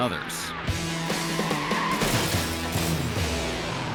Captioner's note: car skids and crashes